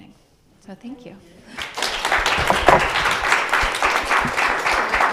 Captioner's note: audience applauds